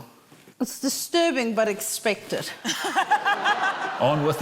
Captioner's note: laughter